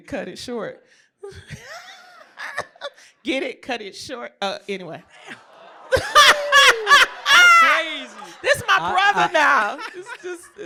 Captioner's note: laughter